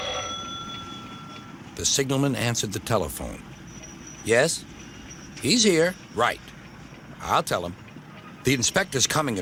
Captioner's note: ringing